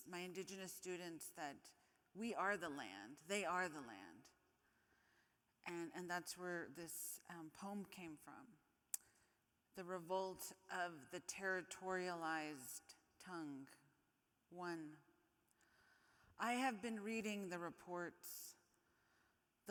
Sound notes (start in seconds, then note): none